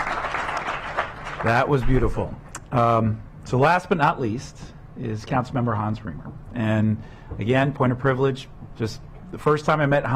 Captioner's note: clapping